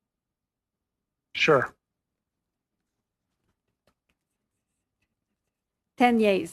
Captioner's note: speaking French